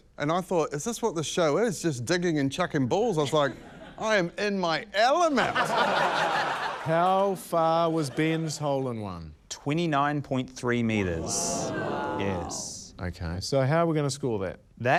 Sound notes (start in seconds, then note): 5.4 laughter; 11.0 audience exclaims